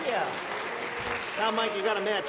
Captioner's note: buzzer